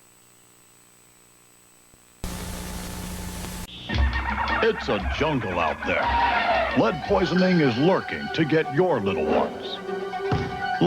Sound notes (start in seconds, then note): 1.9 static